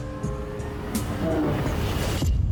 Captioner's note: growls